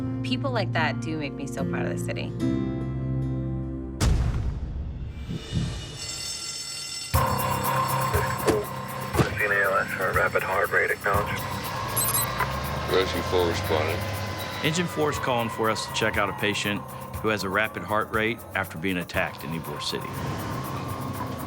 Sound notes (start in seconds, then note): 4.0 thud; 6.2 bell ringing; 7.1 energetic music playing; 9.2 slam; 12.1 beeping; 13.9 siren wailing